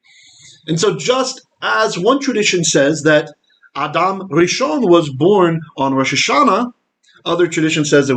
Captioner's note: Hebrew